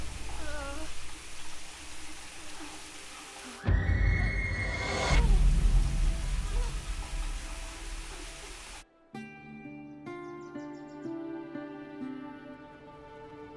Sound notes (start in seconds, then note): 0.2 groans; 9.1 birds chirping